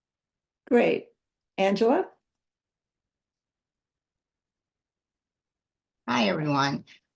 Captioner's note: pause